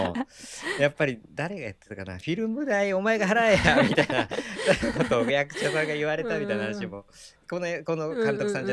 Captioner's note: laughs